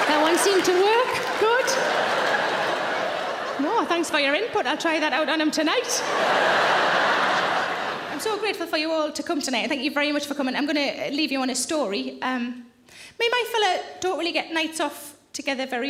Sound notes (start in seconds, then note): 1.2 laughter continues; 6.1 audience laughing loudly